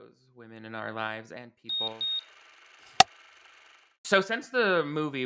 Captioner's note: beeping; clapperboard claps